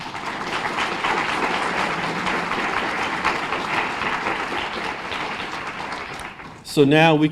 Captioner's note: applause